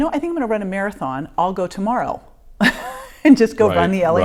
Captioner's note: laughing